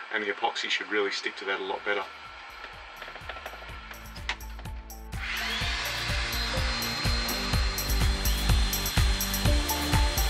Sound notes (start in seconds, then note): 3.7 upbeat music; 4.1 drilling